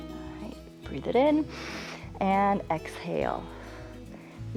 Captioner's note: inhales